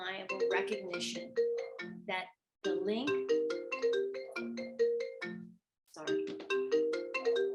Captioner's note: cell phone ringing